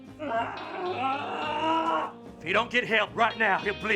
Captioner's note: Waylon groaning